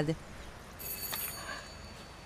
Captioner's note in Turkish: Kapı zili sesi